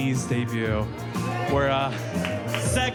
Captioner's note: crowd clapping